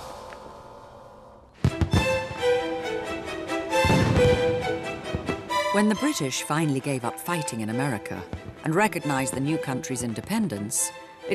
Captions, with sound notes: (dramatic music) (fireworks popping) When the British finally gave up fighting in America and recognized the new country's independence,